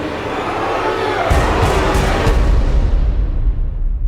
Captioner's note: groaning